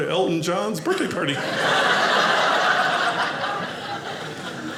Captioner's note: audience laughing